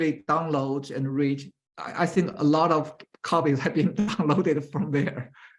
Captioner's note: laughs